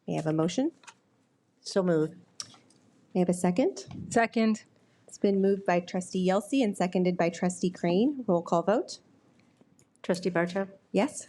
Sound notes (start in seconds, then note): none